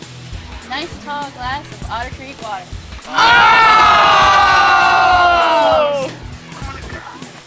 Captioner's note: all groaning